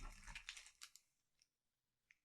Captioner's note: crinkling plastic